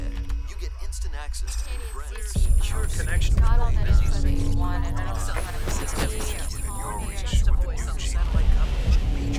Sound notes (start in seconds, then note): 4.8 electricity crackling